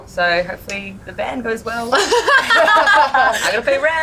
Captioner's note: all laugh